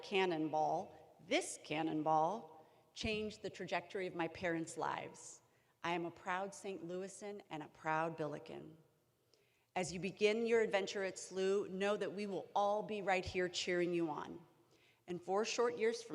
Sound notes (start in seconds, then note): none